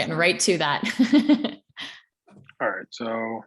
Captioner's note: laughs